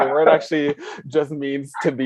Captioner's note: chuckles